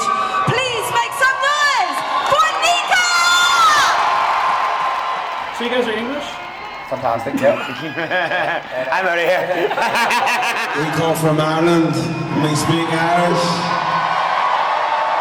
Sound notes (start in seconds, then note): 2.9 crowd cheering; 6.8 sarcastically; 10.2 laughing